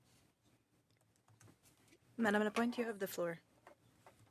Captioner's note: speaking French